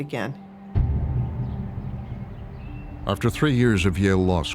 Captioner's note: bell tolling